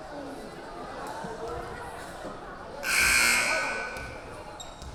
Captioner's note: chattering; buzzer blaring